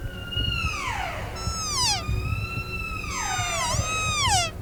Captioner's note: elk bugling; cow calling